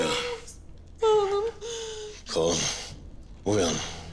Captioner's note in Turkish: Ağlıyor